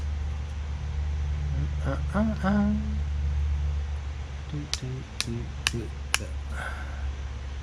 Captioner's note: happy humming